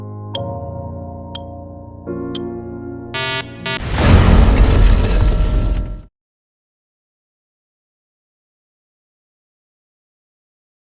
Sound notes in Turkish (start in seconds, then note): 3.7 Patlama sesi